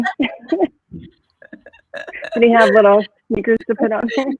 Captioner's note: laughing